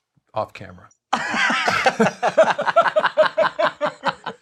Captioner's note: both laugh